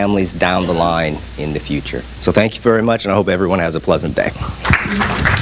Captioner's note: audience applause